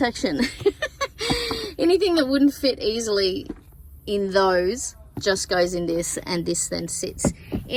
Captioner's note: lgiggles